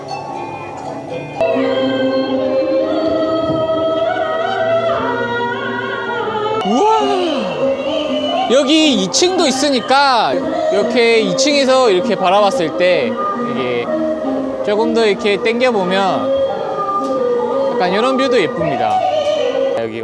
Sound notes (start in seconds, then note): 1.4 shouting; 6.6 imitating the shouting